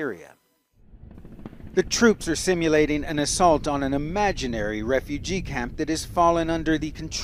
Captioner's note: voice-over